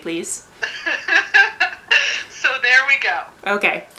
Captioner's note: laughs shockingly like her mother